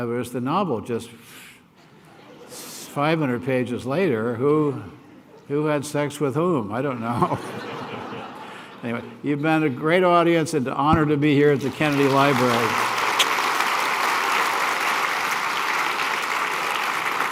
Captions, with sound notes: Whereas the novel just 500 pages later, who had sex with whom? I don't know. Anyway, you've been a great audience. It's an honor to be here at the Kennedy Library. [APPLAUSE]